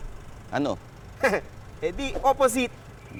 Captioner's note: chuckles